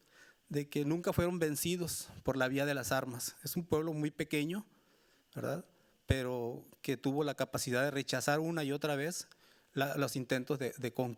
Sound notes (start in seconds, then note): 3.9 speaking Spanish continues